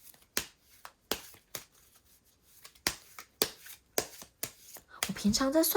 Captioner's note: drawing cards